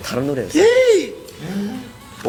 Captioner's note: le gasp~~!